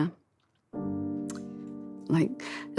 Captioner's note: smacks lips